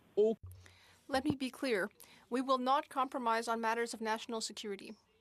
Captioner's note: speaking French